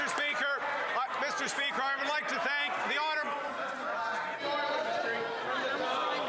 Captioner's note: some Applause